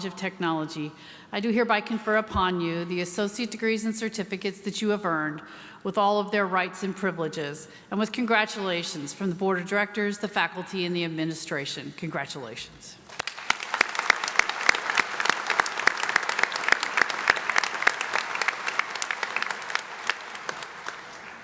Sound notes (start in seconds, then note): 14.0 applause